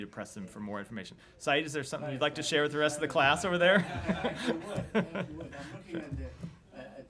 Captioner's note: laughter